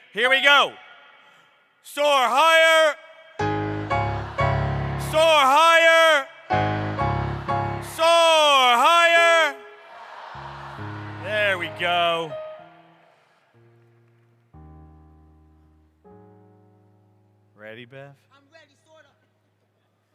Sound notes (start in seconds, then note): 3.4 crowd